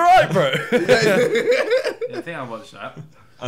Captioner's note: laughing